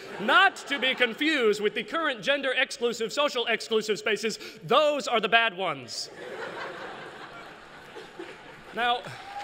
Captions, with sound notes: Not to be confused with the current gender-exclusive, social-exclusive spaces. Those are the bad ones. [LAUGHTER] Now--